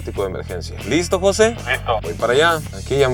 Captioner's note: on the radio